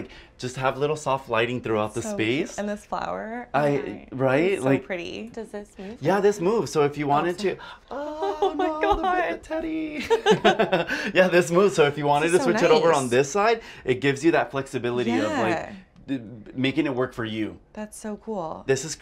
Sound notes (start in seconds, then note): 7.9 laughs; 8.0 both laugh